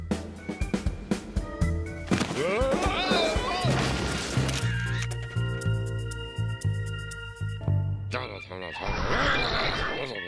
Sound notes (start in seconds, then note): 8.3 grumbling